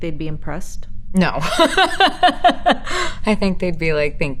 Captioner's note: laughing